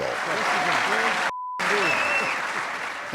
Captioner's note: cheering